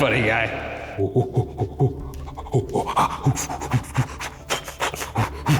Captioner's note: laughing; mimics monkey call